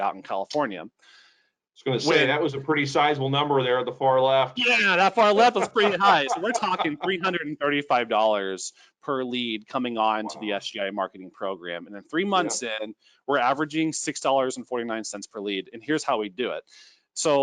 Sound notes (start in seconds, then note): 4.6 laughing